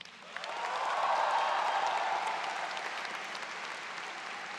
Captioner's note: crowd cheers